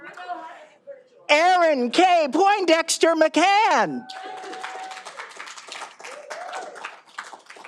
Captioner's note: all applauding